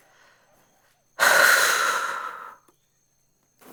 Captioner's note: sigh